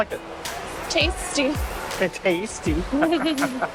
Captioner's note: laughs